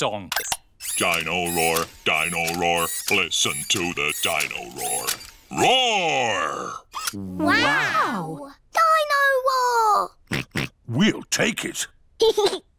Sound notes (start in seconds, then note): 10.3 oinks; 12.0 giggles